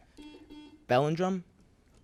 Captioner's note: buzzer beeps